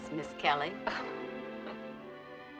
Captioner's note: chuckles